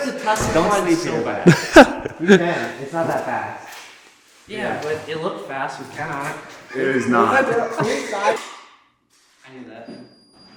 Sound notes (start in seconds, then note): 1.4 laughing; 6.6 all laughing